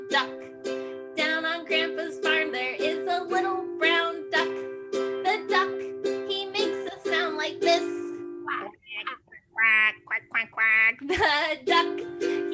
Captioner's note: quacks